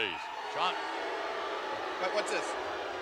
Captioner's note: spectators booing